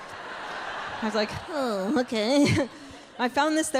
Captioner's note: audience laughing